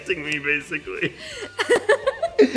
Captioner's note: laughter